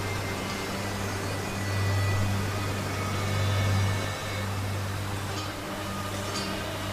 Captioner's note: water falling